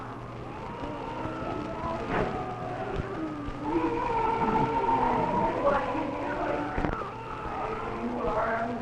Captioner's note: sounds of crying